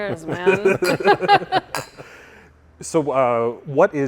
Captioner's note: glasses clinking